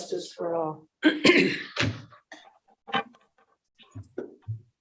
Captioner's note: clears throat